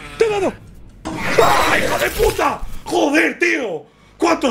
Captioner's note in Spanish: Gruñido; grita